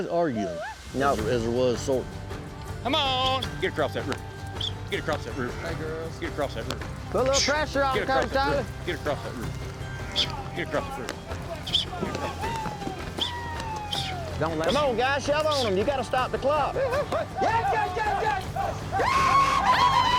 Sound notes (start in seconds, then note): 12.6 whistling